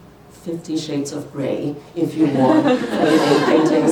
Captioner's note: laughter